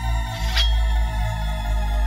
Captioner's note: sword is drawn